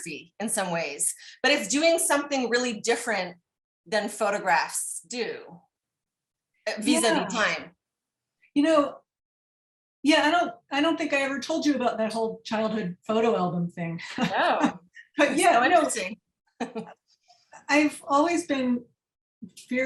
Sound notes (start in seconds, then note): 16.6 laughter